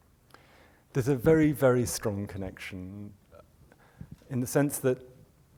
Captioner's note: voiceover